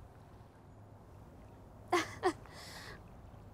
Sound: chuckles sadly

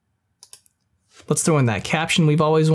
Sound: mouse clicks

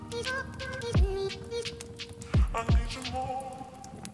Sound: fire cracks

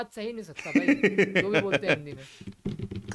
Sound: laughs

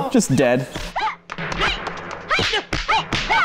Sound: Bruce Lee fighting noise

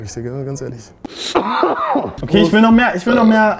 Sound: cough

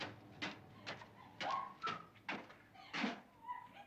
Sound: girls laughing

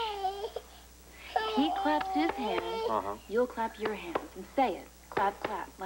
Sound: frankie cries

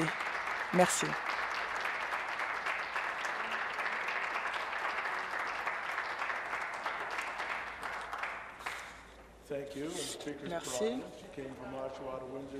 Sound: applause

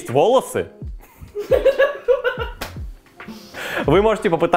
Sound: hysteric laugh

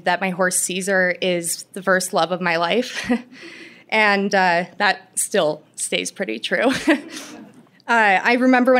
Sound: laughter

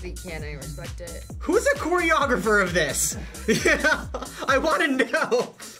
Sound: laughs

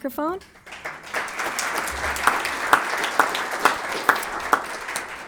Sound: attendees applauding

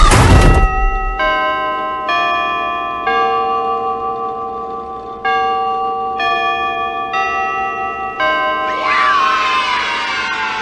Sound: 6AM bell

